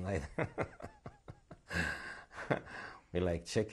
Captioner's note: laughs